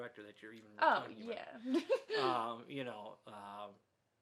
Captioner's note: laughs